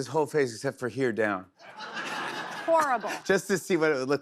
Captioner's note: laughter